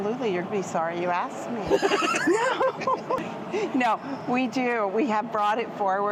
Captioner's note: laughing